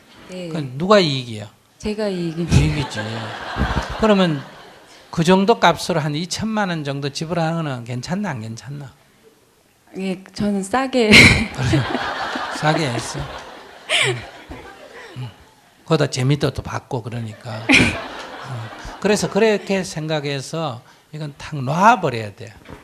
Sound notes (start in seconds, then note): 2.4 audience Laughter; 11.1 questioner Laughter; 11.4 audience Laughter; 14.2 questioner Laughter; 17.3 audience Laughter; 17.3 questioner Laughter